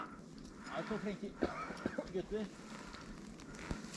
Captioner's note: cough